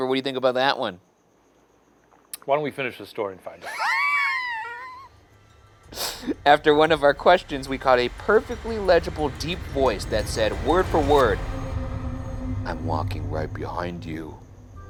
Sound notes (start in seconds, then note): 3.6 laughs